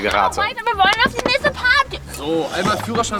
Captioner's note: sie grölt rum